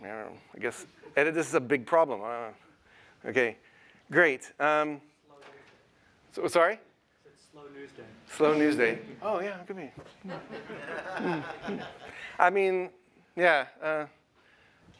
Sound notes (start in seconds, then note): 10.2 laughter